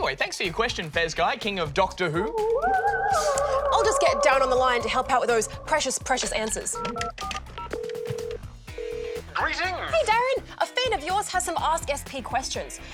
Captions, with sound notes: But anyway, thanks for your question Fezguy, king of doctor who... I'll just get DARREN on the line to help with those precious, precious answers. (PHONE RINGS) Greetings. Hey, DARREN. A fan of yours has some Ask SP questions.